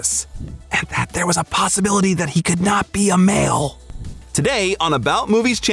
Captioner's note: in whisper